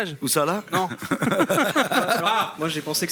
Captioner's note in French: rires